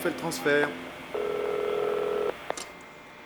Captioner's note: phone ringing